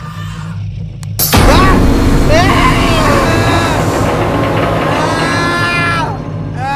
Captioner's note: scary music; Ben yells